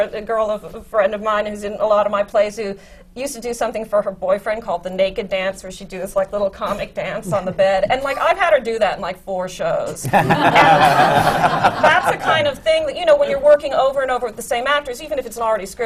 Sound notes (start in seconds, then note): 10.0 laughter